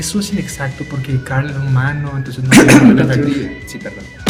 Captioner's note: cough, cough